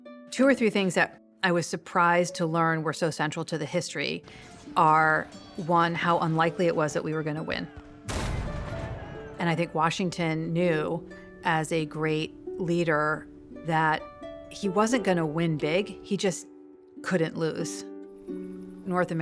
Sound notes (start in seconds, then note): 8.1 loud boom